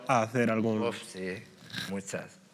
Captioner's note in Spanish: resopla